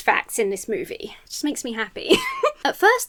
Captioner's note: giggles